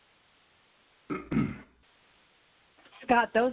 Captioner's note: clears throat